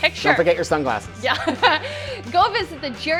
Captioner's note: laughs